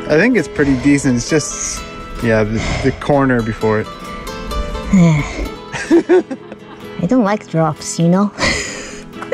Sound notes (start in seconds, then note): 4.8 scoffs; 5.6 laughs